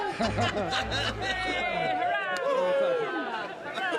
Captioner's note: all cheering